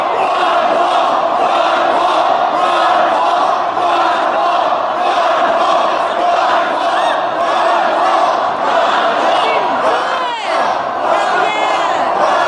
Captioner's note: crowd chants “ron paul!” “ron paul!”